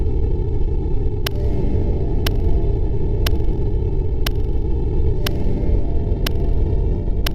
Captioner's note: ominous music; clocking ticking